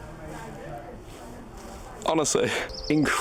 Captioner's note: people talking